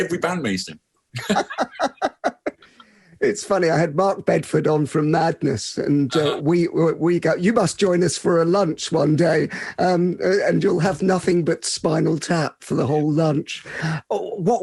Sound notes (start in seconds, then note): 1.1 both laughing